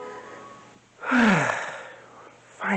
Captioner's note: sigh